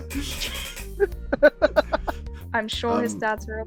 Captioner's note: laughter